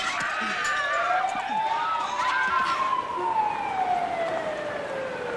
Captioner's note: police sirens wailing